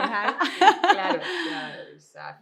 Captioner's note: giggles